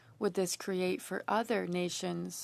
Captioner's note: speaking French